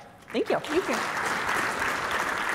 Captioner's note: applause